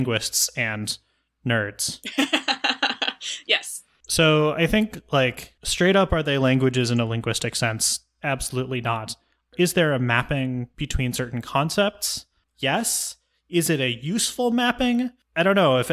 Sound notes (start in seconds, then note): 2.1 laughs